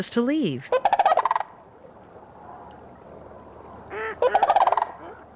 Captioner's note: crane squawks